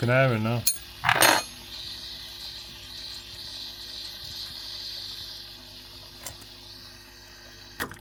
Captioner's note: engine noise